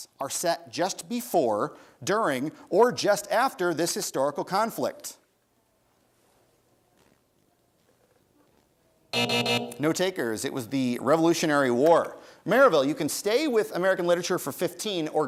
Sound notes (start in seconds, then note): 9.1 buzzer sounds